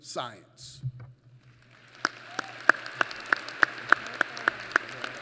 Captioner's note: applause